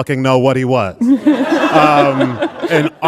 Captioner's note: audience laughing